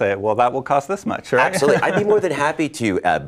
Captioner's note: laughs